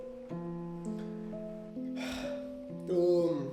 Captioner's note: sighs